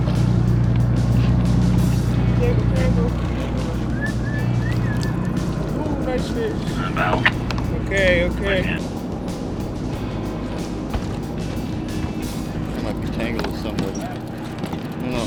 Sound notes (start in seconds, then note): 3.6 man whistling